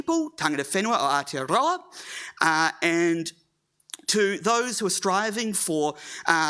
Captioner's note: speaking Maori